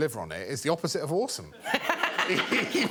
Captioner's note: laughs